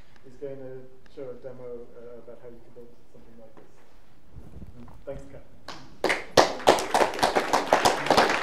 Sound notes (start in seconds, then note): 5.9 applause